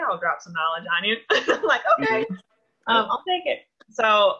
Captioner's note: laughs